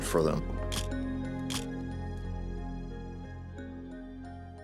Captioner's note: camera clicking